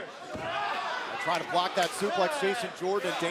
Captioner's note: crowd cheering